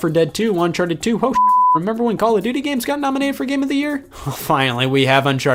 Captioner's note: beep